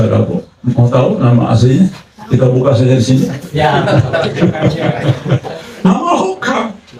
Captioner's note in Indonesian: tertawa